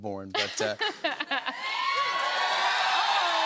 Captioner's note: cheers and applause